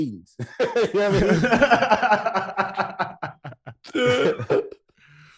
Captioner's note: laughing